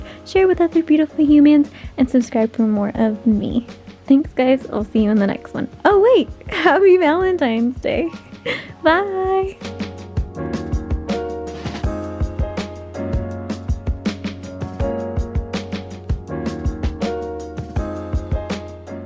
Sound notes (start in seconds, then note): 8.2 giggle